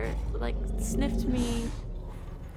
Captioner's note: bear sniffs